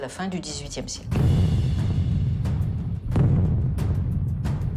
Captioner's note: bombs blasting